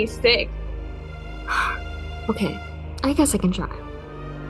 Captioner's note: lucy sighs